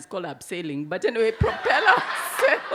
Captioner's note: audience laugh